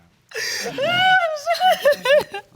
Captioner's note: crying